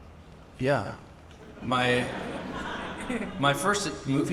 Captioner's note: audience laughing